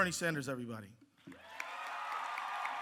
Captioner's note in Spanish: aplausos